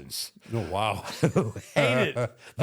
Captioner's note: both laugh